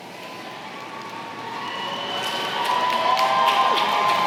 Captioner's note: applause